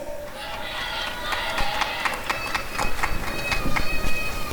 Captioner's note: applause and cheering